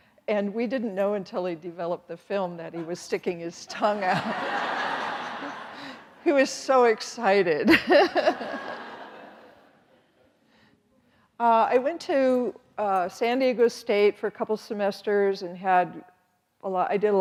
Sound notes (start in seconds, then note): 3.9 audience laughing; 7.7 chuckles